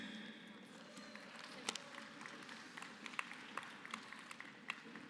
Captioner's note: applause